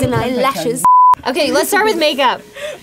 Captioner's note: beep